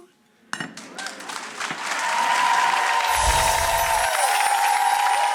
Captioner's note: audience applauding and cheering